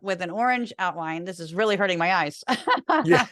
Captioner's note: laugh